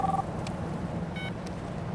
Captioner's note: phone beeps on